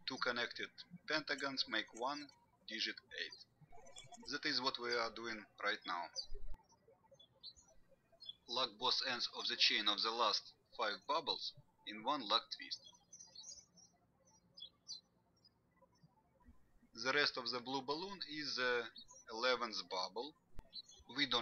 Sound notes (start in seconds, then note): 13.8 birds chirping